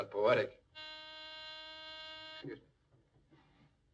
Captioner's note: buzzer sounds